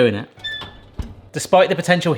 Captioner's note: oven door creaks